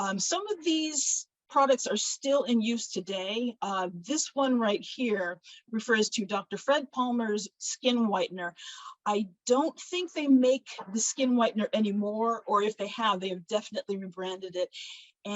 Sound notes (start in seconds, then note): none